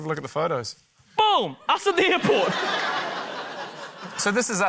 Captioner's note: laughter